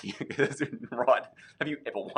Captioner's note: laughing